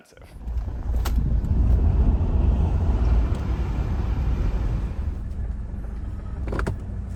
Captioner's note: Road noice while driving "Old-Gold"